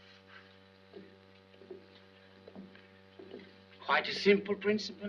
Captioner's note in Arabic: خطوات